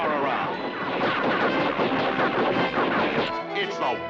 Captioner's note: gunshots